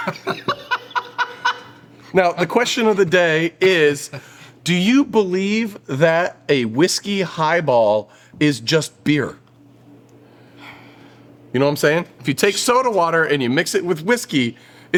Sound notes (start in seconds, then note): 0.0 laugh